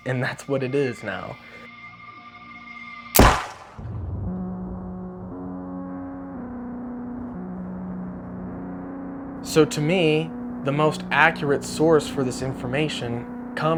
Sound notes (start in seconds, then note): 3.1 gunfire pops; 5.4 somber music